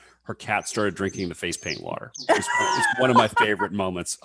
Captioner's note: laughs